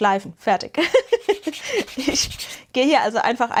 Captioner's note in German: gelächter